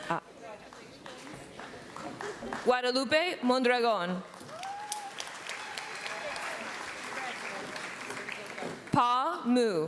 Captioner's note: applause